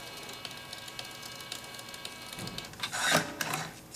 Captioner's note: printer whirring